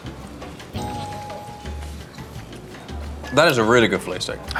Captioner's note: bell dings